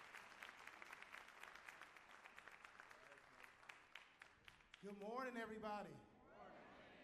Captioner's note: cheers and applause